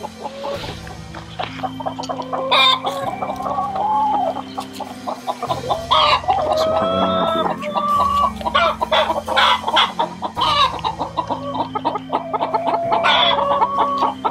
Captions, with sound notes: Looks like her wing might be injured. (hens squawking)